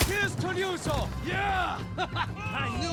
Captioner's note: laughs